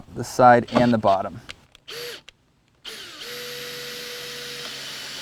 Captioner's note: drill whirring, no additional audio